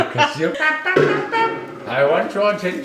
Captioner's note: laughing; imitates trumpet